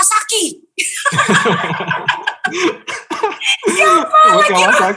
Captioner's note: laughing